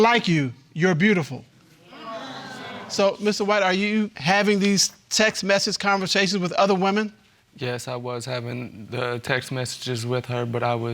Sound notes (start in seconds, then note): 1.9 audience exclaiming